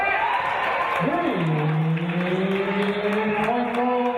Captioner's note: cheers and applause